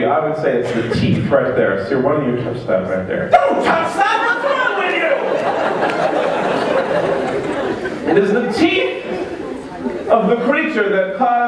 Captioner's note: laughter